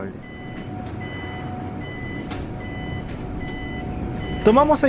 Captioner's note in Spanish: Sonido de bus con viraje